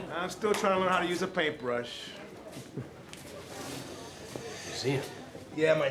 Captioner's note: chuckles